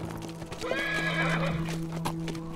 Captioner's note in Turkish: At kişniyor